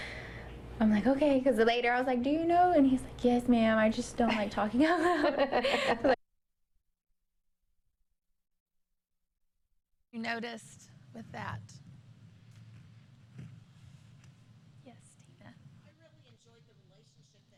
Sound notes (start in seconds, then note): 4.8 laughter